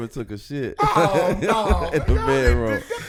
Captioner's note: laughing; laughs